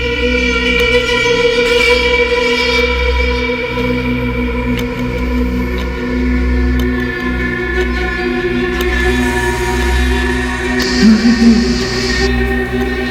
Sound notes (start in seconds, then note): 10.6 ominous music; 10.6 whispering